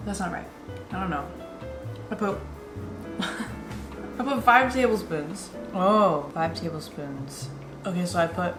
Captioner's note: laughs